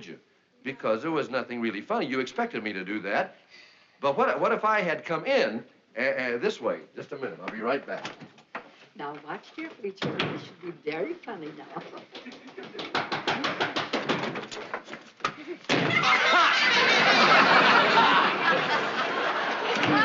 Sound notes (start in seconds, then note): 11.8 chuckles; 12.5 knocking on door; 15.3 laughing